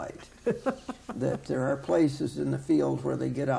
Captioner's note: laughing